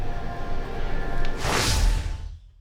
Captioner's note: swoosh